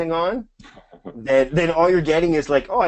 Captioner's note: laughs